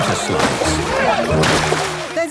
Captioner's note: laughing